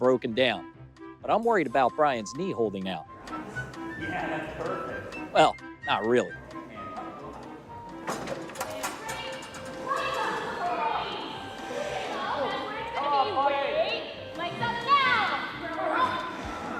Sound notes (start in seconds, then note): 7.8 yelling commands